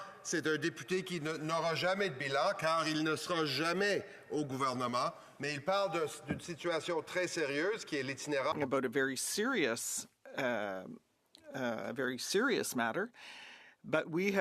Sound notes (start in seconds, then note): 2.6 speaking French